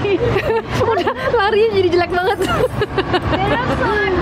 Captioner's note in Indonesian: Ketawa